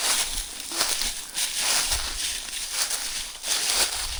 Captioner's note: leaves crunching